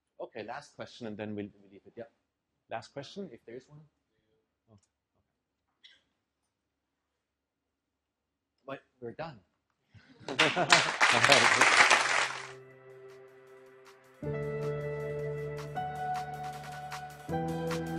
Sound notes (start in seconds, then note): 10.2 laugh; 10.2 applause